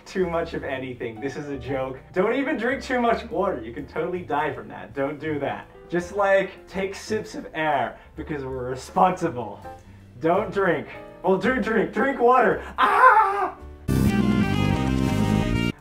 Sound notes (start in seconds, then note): 12.7 scream; 13.7 backwards music